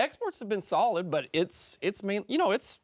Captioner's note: French